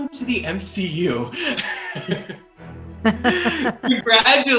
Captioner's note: laughter